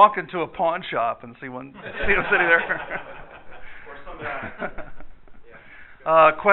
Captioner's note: laughter